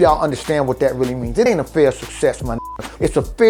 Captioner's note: beep